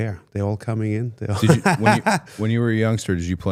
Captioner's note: laughs